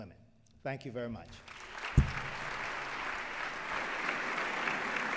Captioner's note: applause